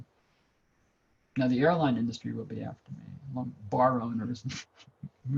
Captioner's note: laughs